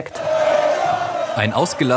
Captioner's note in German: Gegröle